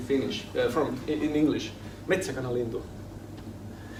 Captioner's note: foreign language